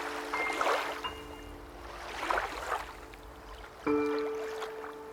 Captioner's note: water splashing; soft music